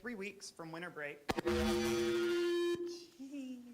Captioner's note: squawking